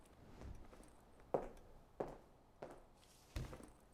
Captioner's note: footsteps tapping